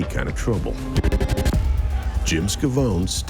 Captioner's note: electronic scratching